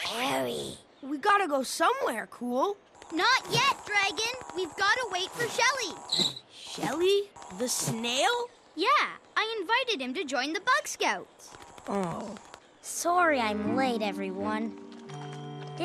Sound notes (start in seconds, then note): 3.0 buzzes away; 6.0 screeches to halt; 11.7 groans